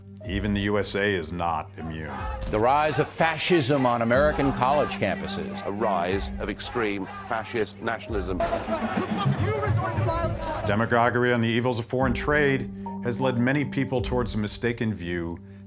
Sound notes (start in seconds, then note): 8.4 yelling